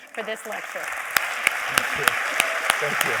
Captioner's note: applause